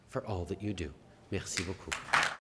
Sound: applause

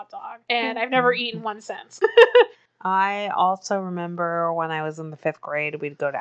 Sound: laughs

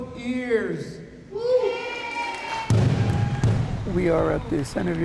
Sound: audience cheers

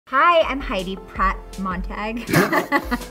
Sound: laughing

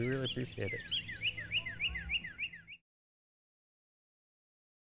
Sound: birds chirping

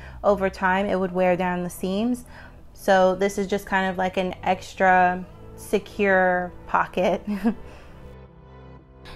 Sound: chuckles

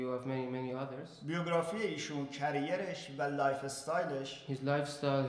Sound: speaking in farsi

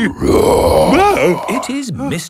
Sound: loud roar

